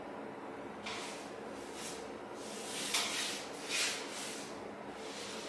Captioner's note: light brush stroke sounds